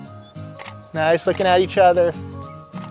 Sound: click

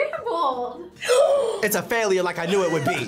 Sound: gasps; laughs

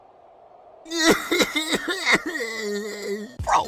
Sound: gross cries

